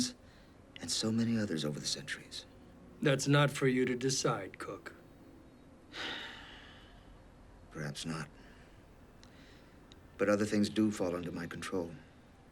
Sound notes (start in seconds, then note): 5.9 sighs